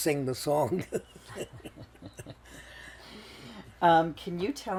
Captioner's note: laughing